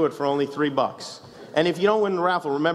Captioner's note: laughs